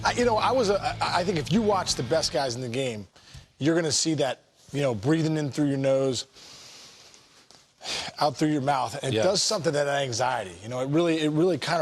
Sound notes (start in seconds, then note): 6.3 inhales deeply; 6.3 exhales